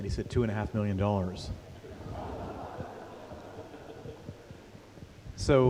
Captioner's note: laughter